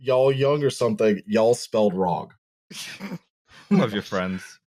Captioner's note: laughter; laughs